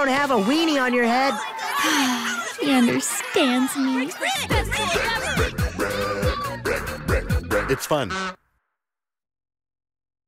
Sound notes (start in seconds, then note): 1.8 sigh